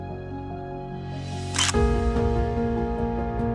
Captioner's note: camera click